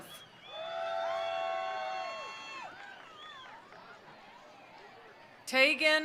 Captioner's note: attendees cheering; attendees applauding